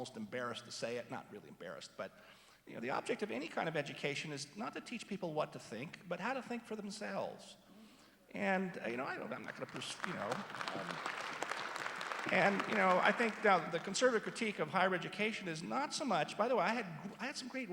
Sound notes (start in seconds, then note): 9.4 applause